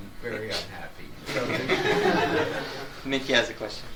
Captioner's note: audience laughs